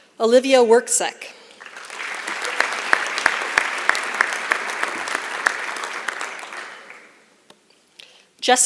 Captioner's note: applause